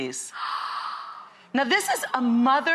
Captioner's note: model gasps